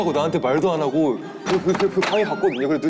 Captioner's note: knock!